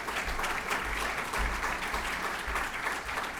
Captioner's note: applause